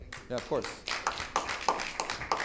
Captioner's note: audience applauding